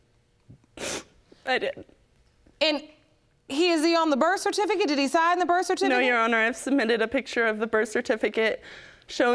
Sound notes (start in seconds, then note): 0.7 sniffling